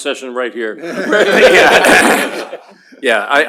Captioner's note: laughter